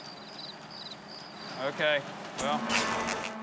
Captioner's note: crickets chirping